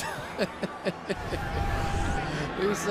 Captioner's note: laughs